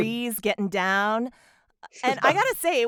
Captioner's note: laughter